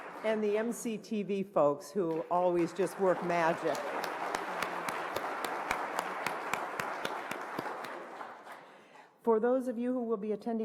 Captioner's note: applause